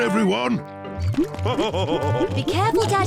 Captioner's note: laughs